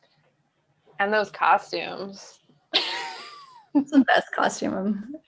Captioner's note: chuckles